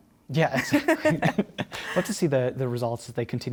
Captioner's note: laughter